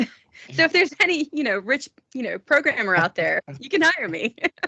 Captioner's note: laughing